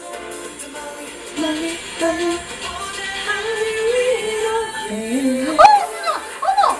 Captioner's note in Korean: 흥얼흥얼